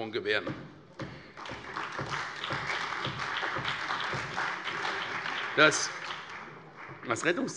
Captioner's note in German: Beifall bei der CDU und dem BÜNDNIS 90/DIE GRÜNEN